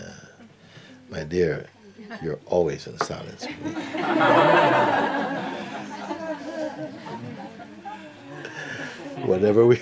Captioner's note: laughter